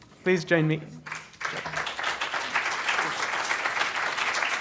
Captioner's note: applause